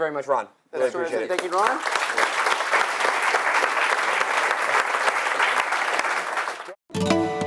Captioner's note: applause